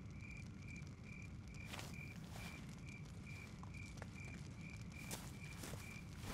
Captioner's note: fire Crackling